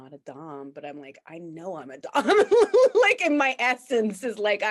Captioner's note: laughs